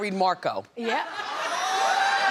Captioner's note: audience cheers